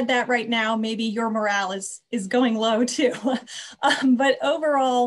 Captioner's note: laughs